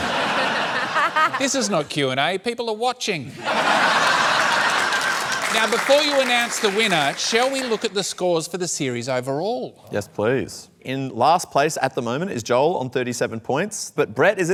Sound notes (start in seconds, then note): 0.0 laughter; 3.3 laughter